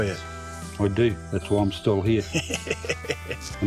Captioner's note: laughing